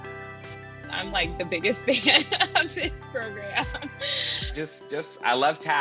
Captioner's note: laughs